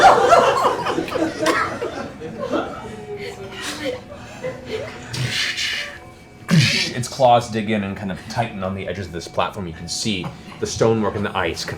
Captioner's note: heavy impacts